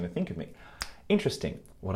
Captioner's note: fingers snapping